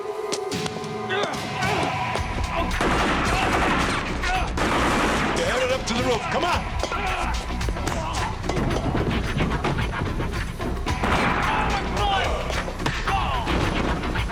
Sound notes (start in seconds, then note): 4.3 gunfire